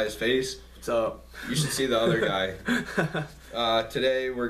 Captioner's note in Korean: 어색한 웃음